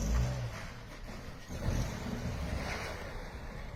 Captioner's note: car revs